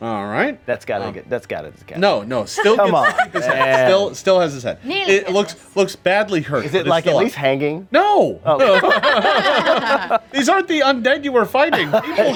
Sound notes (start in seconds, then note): 8.6 group laughing